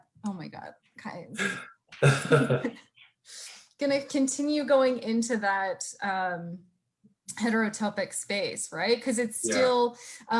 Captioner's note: both laughing